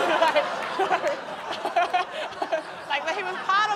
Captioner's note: laughs; laughter